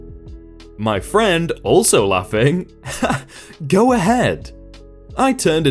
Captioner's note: also laughing